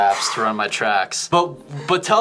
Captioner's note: exhales